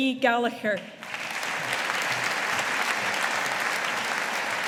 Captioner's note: audience applauding